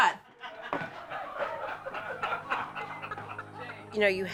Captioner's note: all laughing